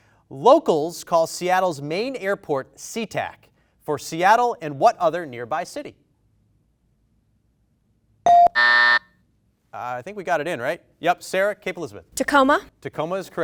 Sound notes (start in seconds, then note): 8.5 buzz